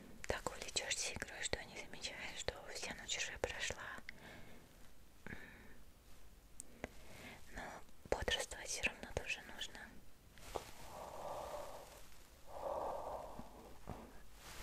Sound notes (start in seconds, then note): 10.7 yawns